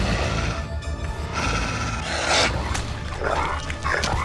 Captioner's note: wolf growls